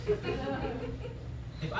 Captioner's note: laughter